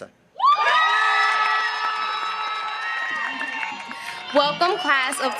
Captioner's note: audience applauding